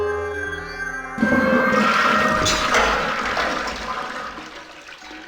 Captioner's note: musical sting of interaction, toilet flushing